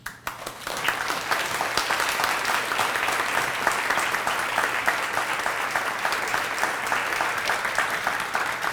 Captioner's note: applause